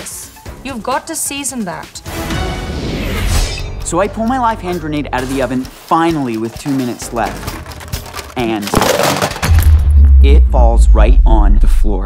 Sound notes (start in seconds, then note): 2.4 whoosh; 7.4 clinking; 9.1 thunk